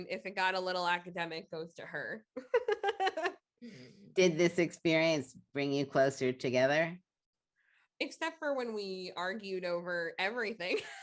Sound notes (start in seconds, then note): 2.4 chuckling